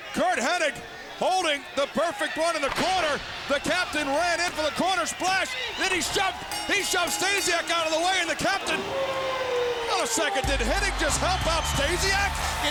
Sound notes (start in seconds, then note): 5.4 bell dings; 9.2 wolf howls; 10.4 laid back music